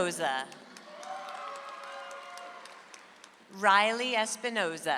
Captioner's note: audience applauds